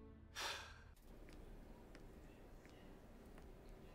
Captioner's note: Mark sighs